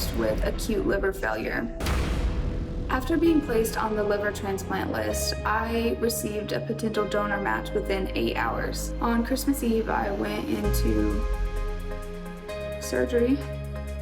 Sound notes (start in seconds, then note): 1.8 slamming